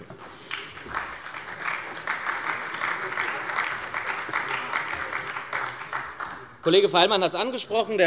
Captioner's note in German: Beifall bei der SPD